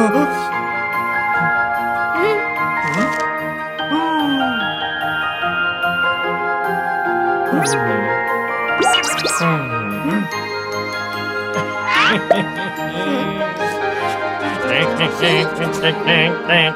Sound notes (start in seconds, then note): 8.8 robot noise